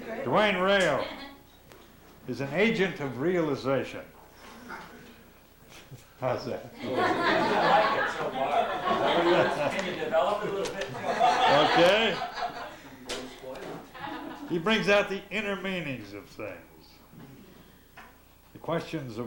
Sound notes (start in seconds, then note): 6.8 laughter